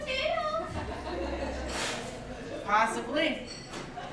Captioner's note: audience laughing